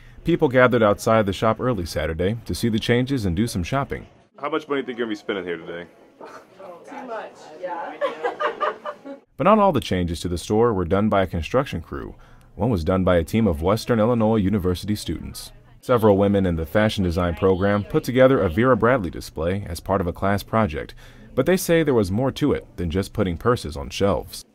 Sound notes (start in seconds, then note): 7.9 laughter